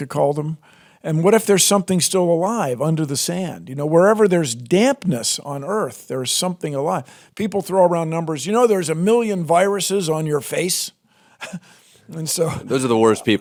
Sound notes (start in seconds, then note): 12.2 laughs; 12.3 laughter